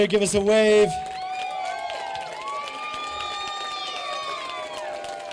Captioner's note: applause